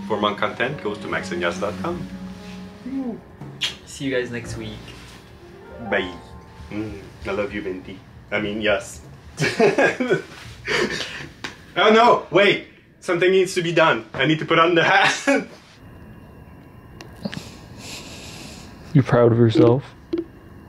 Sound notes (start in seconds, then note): 3.7 lips smacking; 9.4 laughing